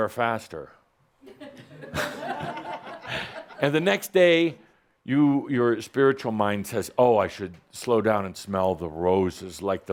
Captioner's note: some laughter